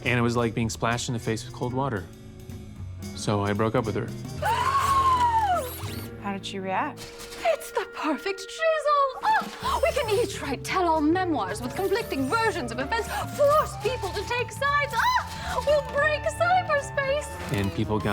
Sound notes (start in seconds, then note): 3.1 gasps